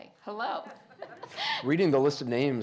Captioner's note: laughing